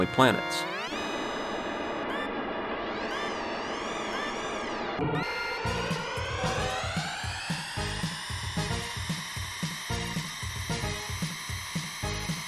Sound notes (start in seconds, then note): 1.8 game music; 1.8 game sounds